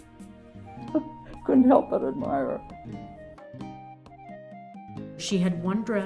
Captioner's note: chuckles